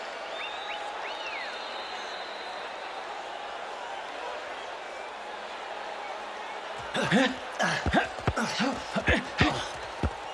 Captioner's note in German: beifall